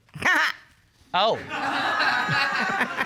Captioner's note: audience laughing; laughs